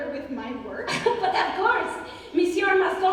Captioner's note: laughs